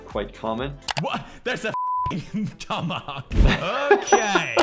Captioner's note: beep